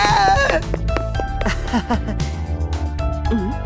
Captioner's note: awkward laugh